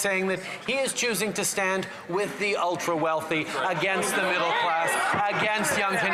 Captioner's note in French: voix de l'interprète